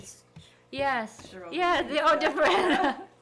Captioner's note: interviewer quietly speaking